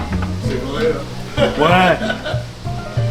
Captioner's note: laugh